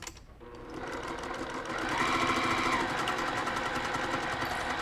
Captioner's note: machine running